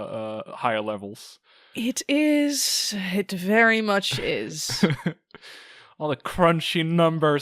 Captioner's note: laughing; sighs